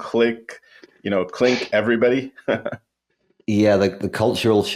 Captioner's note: laughs